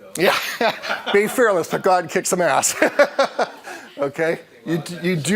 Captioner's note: laughing